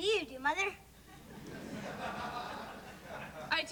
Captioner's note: laughter